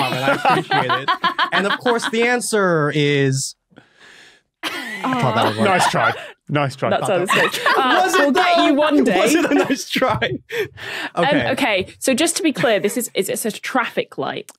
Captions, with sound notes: and I appreciate it. (laughs) And of course, the answer is... (wheezes) I thought that would work. (laughs) Nice try, nice try. Ah, we'll get you one day. Was it though? Was it a nice try? Okay, so just to be clear, this is— Is it a traffic light?